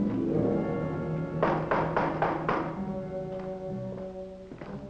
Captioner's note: knocking